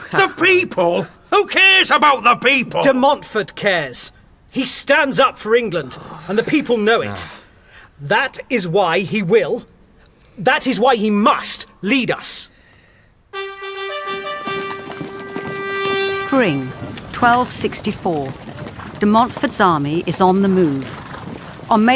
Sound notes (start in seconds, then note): 13.3 fanfare; 13.4 sound of horses' hooves